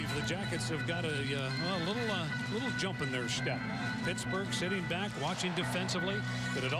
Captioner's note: crowd noise